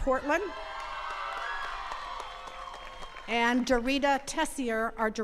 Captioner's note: attendees cheering and clapping